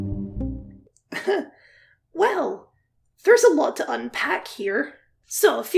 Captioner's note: nervous Chuckle